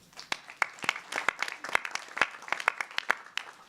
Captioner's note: clapping